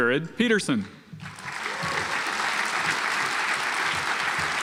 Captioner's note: audience applauds